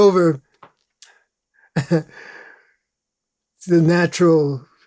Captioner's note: laughs